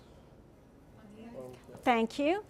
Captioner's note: speaking from off mic